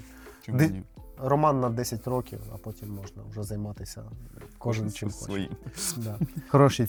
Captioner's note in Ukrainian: сміх